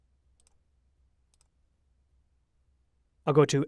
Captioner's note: mouse clicks